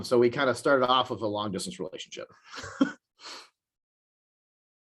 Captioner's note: chuckles